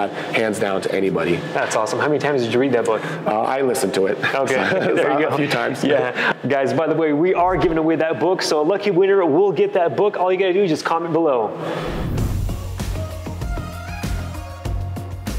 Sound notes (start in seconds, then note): 4.2 both laughing; 12.4 gentle upbeat music